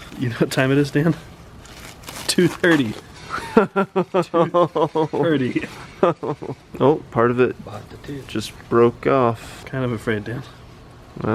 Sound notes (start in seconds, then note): 3.2 laughs